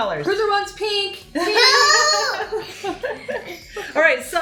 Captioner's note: laughs